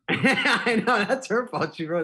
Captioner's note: laughing